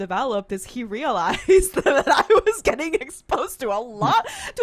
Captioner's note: laughs